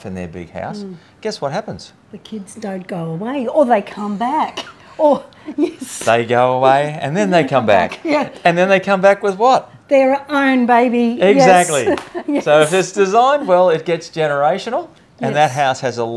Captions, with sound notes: in their big house, guess what happens? - The kids don't go away, or they come back. (both laughing) Yes. - They go away, and then they come back. - Yeah. - And then they come back with what? - Their own baby, yes. - Exactly. So if it's designed well, it gets generational- - Yes.